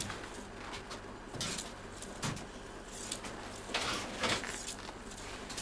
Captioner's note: reels clicking continues